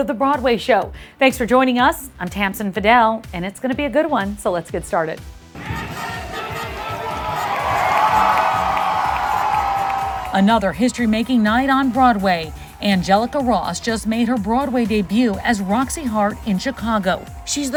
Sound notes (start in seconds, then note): 5.6 audience applauding and cheering